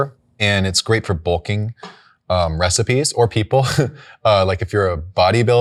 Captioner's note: chuckles